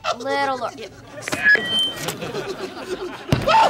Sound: microphone squeal

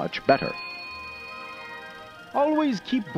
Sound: ding

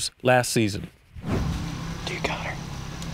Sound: whispering

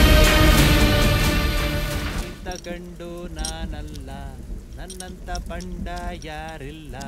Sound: humming a song

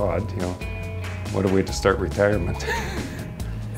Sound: laughs

